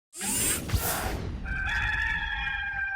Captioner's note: logo whooshing; rooster crowing